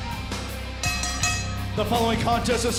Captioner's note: bell ringing